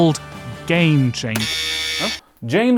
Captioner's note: buzzer